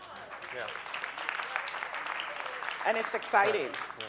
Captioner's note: audience applauding